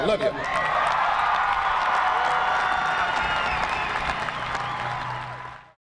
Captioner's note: cheering